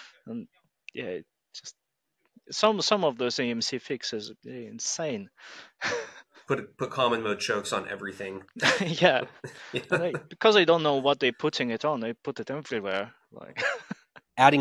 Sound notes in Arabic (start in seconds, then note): 6.5 يضحك; 13.5 يضحك